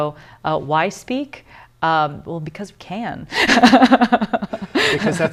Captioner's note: laughter